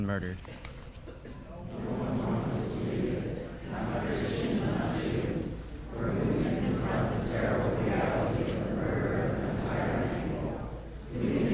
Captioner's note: congregation reciting